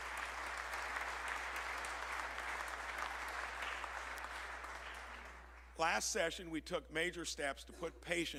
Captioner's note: applause